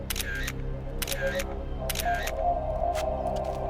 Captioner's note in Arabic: نقرات الكاميرا